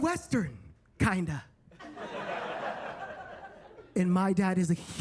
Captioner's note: attendees laughing